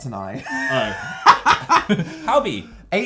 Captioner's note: laugh